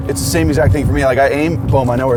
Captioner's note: none